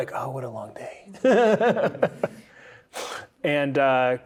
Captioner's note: laughing